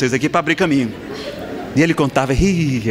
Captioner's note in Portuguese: Risadas